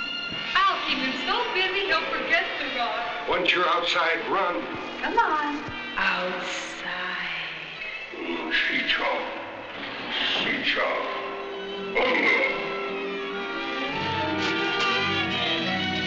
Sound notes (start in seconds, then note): 8.3 speaking in a foreign language; 12.0 dramatic instrumental music